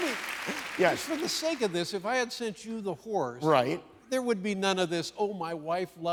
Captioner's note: cheers and applause